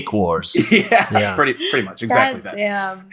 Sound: laughs

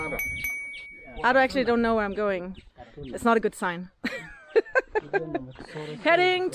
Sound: laughing

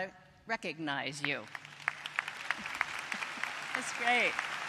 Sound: applause

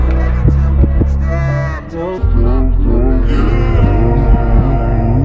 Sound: echoes

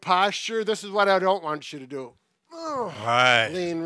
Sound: grunting

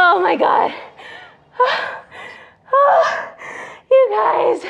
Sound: heavy breathing

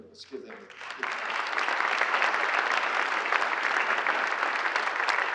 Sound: audience applauds

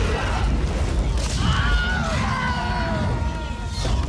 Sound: scream

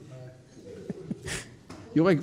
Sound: laughing

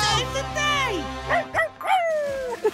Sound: laughing; barking

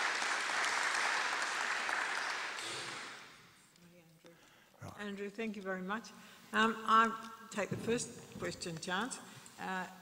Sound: applause

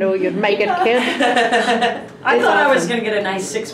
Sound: laughing

